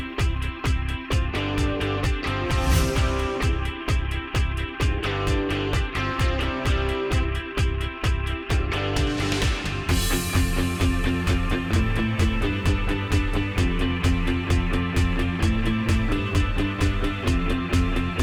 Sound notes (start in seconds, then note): 2.4 words whooshing; 4.9 upbeat music continues; 9.8 lively upbeat music